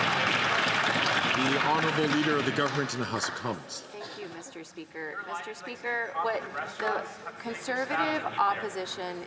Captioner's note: some Applause